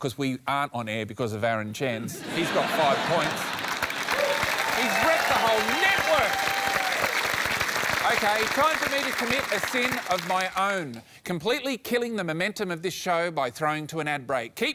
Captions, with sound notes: because we aren't on air because of Aaron Chen. He's got five points. (CHEERING, APPLAUSE) He's wrecked the whole network! OK, time for me to commit a sin of my own. Completely killing the momentum of this show by throwing to an ad break.